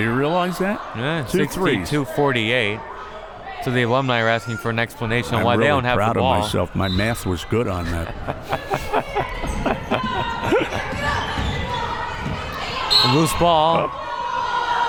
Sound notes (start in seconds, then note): 7.8 both laughs; 12.8 whistle